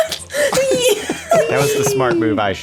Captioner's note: laughter